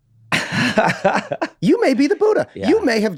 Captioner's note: Glenn laughs